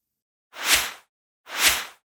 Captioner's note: synth swish